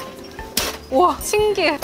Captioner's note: bang!